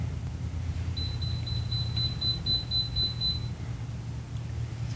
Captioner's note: timer Sound